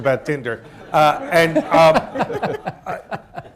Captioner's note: laughter